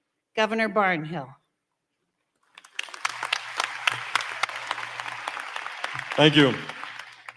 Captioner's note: applause